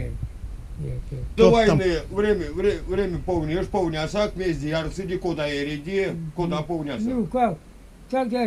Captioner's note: speaks the Erzya language